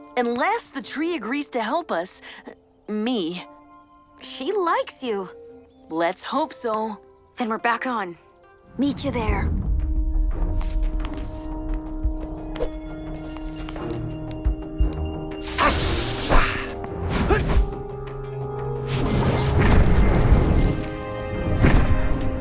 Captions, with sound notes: Unless the Tree agrees to help us. Me. She likes you. Let’s hope so. Then we’re back on. Meet you there. [suspense music] [Max growls] [wings flap]